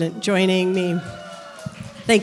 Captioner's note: cheering